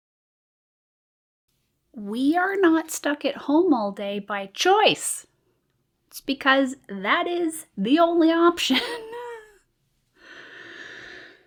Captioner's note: sighs